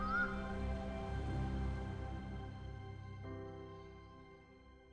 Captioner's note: birds chirp